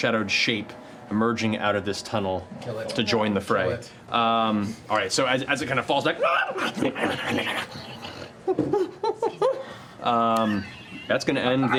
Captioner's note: snarling, chattering